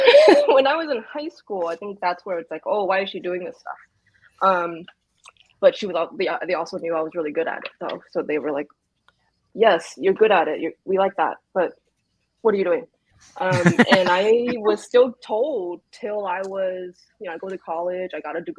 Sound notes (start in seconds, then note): 0.0 laughs; 13.4 laughs